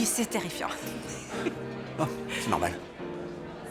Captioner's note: laughing